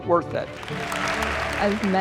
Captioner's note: students clapping